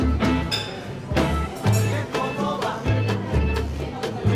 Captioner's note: distant chatting